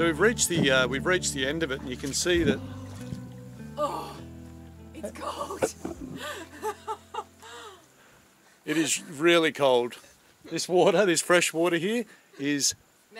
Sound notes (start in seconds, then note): 5.0 laughs